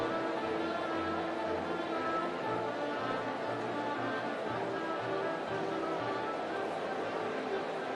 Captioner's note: applause